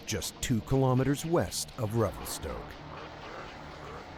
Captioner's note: voiceover